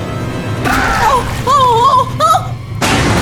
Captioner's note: urgh!!